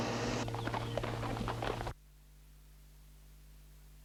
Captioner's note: hooves clopping